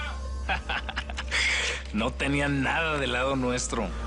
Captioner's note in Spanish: Risas